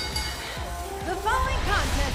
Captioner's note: bell